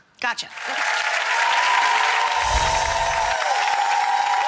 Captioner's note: applause